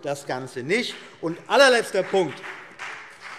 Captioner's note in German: Beifall BÜNDNIS 90/DIE GRÜNEN